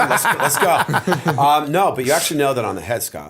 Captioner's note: laughter